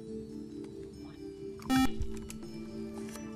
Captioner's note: buzzer